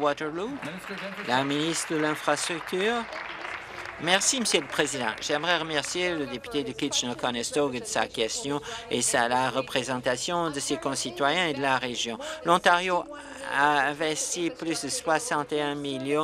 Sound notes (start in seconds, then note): 6.0 applause